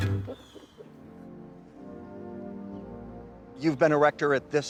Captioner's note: laughs; birds chirping; mellow music